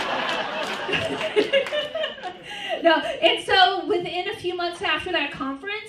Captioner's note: laughter; laughs